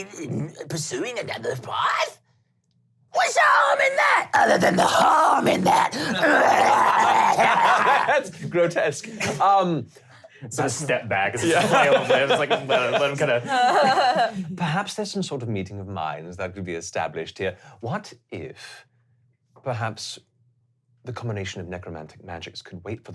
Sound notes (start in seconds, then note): 6.4 grunting excitedly; 7.9 laughing; 13.9 laughing